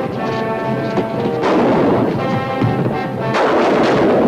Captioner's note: guns firing